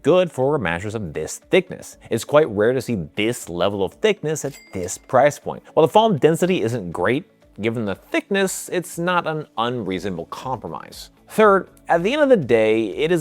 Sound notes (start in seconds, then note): 4.4 bell dinging